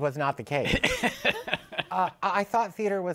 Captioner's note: laughs